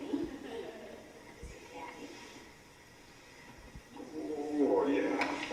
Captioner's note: laugh